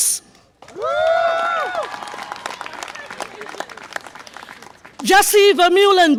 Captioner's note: audience applause and cheer